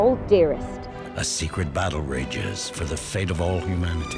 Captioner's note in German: Voiceover